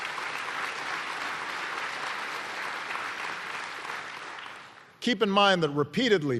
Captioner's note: applause